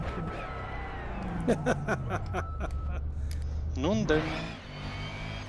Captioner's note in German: Lacht